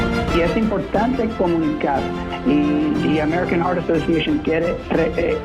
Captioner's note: speaking in foreign language